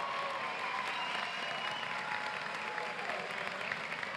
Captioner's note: cheering and Applause